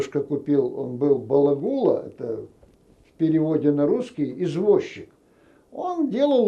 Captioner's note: yiddish